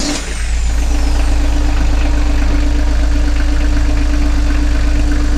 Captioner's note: engine chugs loudly